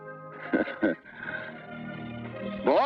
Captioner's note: chuckles